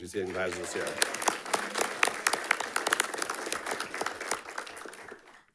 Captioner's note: audience applauding